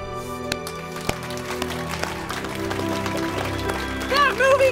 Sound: applause

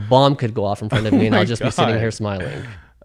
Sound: laughs

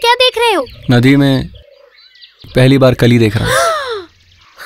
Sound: gasps

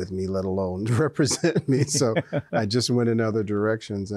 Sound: both chuckle

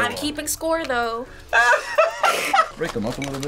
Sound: laughs

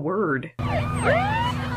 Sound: sirens blaze

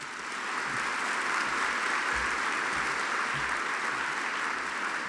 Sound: audience applauding

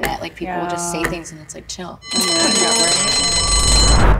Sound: bell ringing

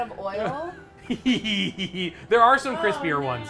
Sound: giggles

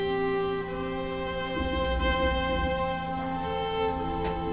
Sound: boat rumbles

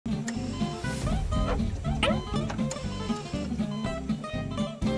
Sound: beeping

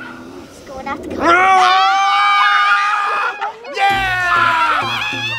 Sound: shouting and cheering; lively music

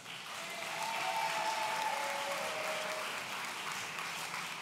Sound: audience cheering

